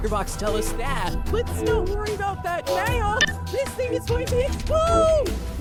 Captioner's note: electronic sound